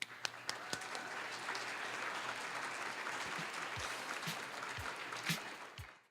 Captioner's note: applause